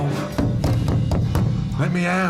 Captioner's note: loud banging